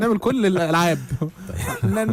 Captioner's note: laughs!